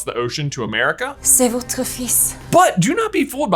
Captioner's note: Nagini speaking french